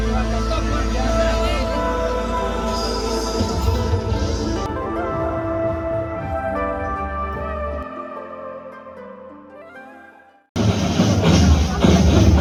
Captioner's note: clap